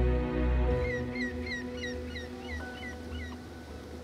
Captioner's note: Bird calling